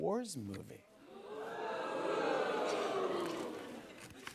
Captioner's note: audience oohs